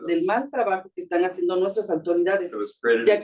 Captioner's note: speaking Spanish